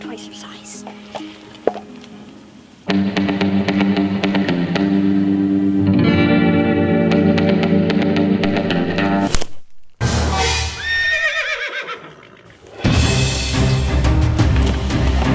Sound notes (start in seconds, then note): 2.6 spaghetti western music; 9.2 twig snapping; 10.4 horse neighing; 12.8 dramatic music